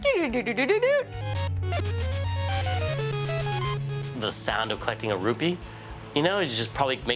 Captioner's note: mimics arcade sounds; arcade sounds